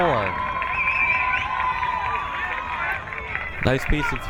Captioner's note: crowd cheering